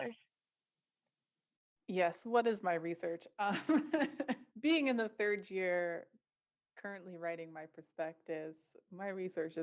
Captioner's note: laughter